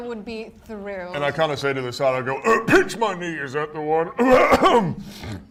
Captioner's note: coughs